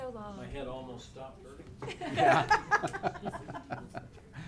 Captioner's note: laughing